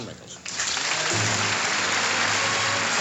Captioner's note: applause